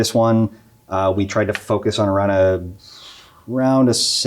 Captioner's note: blows air